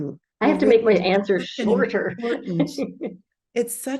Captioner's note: laughs